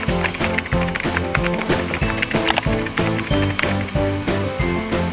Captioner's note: printer starting; keyboard keys typing